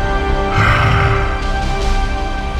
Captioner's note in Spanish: Growl